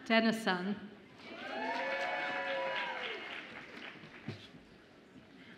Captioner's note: audience applauds and cheers